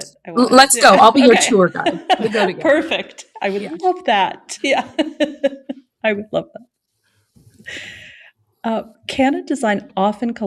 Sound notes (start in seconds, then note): 0.6 laughs; 5.3 laughs